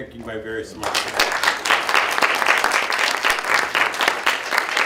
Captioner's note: applause